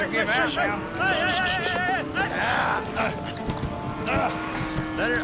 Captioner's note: shouting